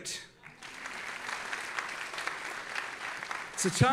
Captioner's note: audience applauding